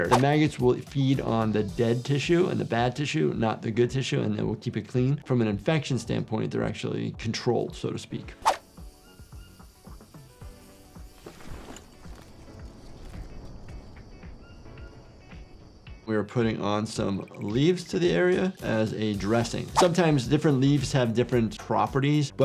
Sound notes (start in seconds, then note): 9.1 animals calling